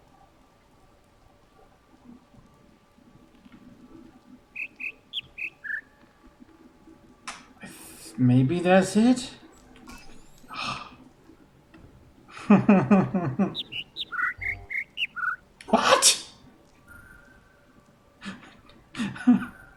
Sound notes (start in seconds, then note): 4.5 bird chirps ˧ ˧ ˥ ˧ ˩; 10.5 sigh of relief; 12.4 overlapping birds chirping, ˥ ˧ ˥ ˩; 13.5 whimpers; 18.2 laughs